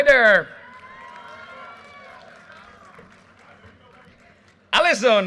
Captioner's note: audience cheers and applause